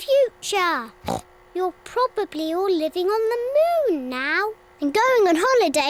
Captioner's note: oinks